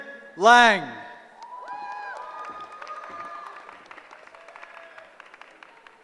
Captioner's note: cheering